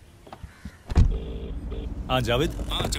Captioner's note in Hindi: लाइन बज रही है